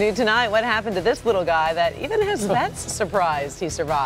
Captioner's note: laughter